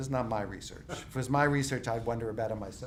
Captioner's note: laughing